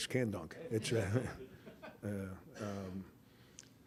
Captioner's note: laughter